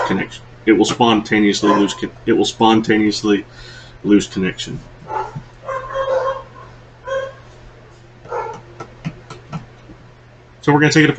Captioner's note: dogs' Barking, rudely interrupting line